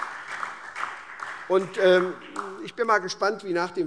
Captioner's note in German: Beifall SPD